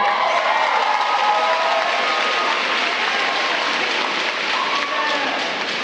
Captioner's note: applause